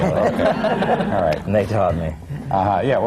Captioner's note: laughter